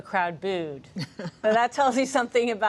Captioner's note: laughs